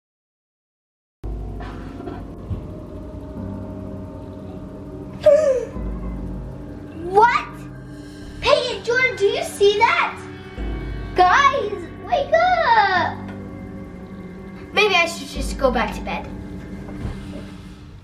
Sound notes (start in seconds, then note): 2.7 ominous music; 5.3 gasps